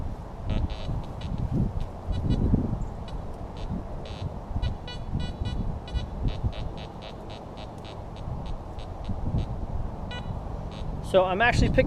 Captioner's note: detector beeps